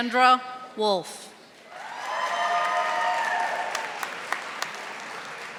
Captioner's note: audience applauding